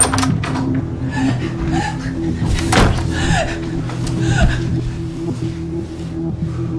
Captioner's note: door opens, closes; Kristin panting